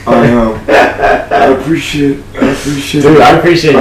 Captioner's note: laughs